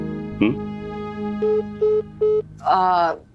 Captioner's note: disconnecting tone